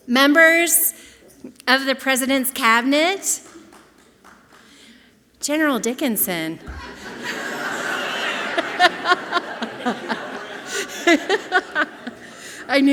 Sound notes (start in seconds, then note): 3.4 audience clapping softly; 6.6 and audience laughing loudly